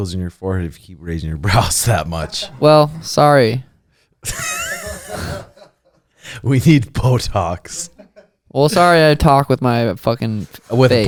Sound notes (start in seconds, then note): 4.2 laughing